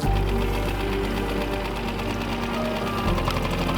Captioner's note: engine rumbling